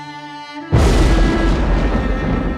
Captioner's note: thundering